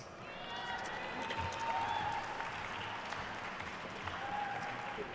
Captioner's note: attendees cheering and applauding